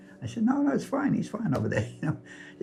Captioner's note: chuckles